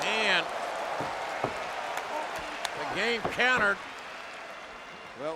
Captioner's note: applause